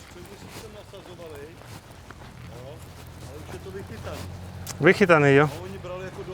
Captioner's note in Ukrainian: чеський рибалка говорить